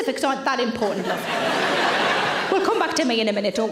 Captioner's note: audience laughs